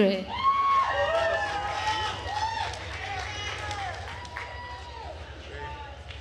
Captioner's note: attendees cheering and applauding